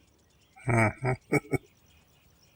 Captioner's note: chuckling